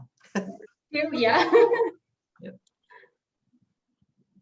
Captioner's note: laughing